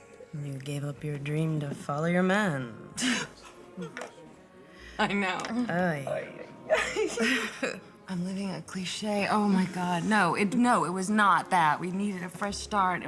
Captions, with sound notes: You gave up your dream to follow your man. [laughs] - I know. - Ay... [both laugh] I'm living a cliché. Oh, my god. No, it-- No, it was not that. We needed a fresh start,